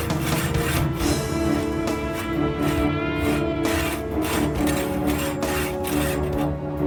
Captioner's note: saw hissing; suspenseful music